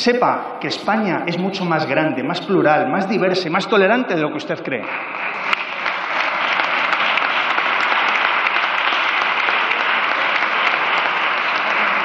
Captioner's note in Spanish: Aplausos